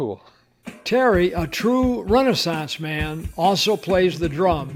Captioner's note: voiceover